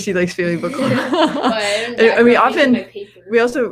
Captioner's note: both laughs